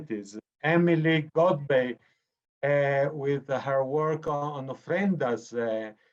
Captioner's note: speaking foreign language